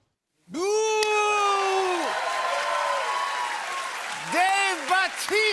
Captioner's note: cheers and applause